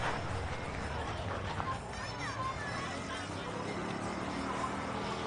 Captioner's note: people chattering; light music